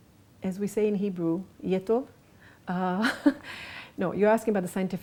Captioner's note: laughs